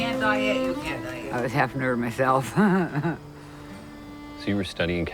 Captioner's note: chuckles